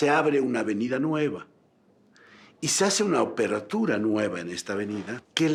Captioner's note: speaking in foreign language